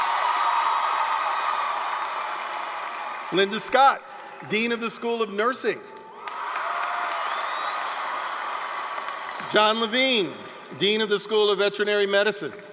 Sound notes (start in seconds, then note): 0.0 applause, cheering